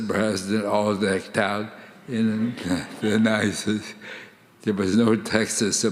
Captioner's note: audience laughing